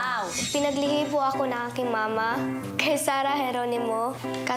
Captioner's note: in Tagalog